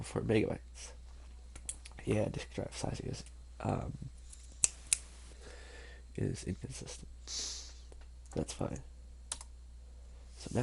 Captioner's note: snaps Fingers